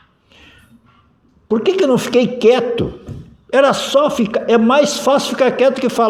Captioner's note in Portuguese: limpando a garganta